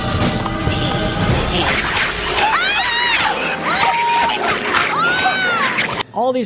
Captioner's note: grinding; chomping; screaming